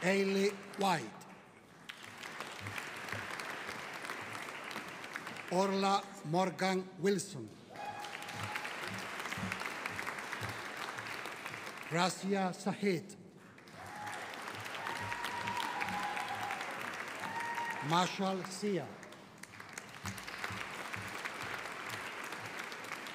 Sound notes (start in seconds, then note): 0.0 audience applauding; 7.6 audience applauding; 13.7 audience cheering; 19.9 audience applauding